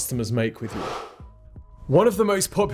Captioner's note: swoosh